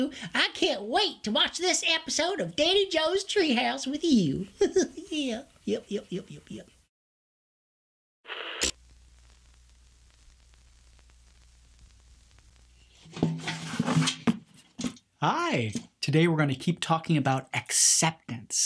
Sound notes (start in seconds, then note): 4.5 giggles; 8.2 TV static; 13.0 bucket clangs